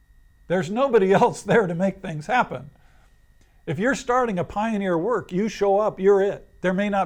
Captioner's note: laughs